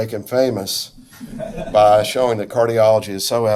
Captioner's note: audience laughs